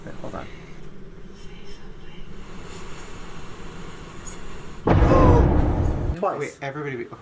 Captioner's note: jump scare sound effect